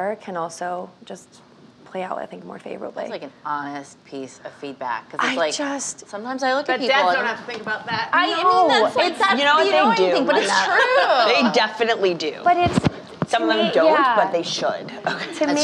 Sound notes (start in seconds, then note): 9.3 overlapping chatter